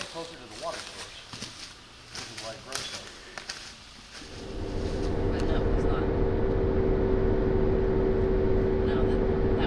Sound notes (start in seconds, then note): 0.7 people chattering; 5.9 vehicle engine whirring